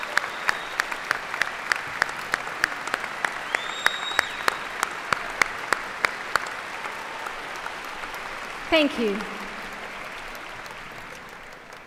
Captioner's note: applause